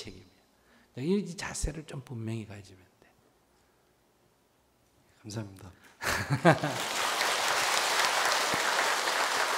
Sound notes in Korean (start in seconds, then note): 6.0 웃음; 6.4 청중박수